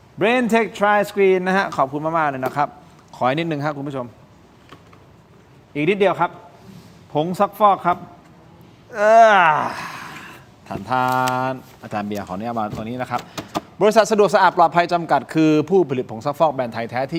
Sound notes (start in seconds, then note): 8.9 sigh